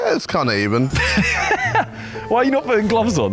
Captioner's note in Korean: 웃음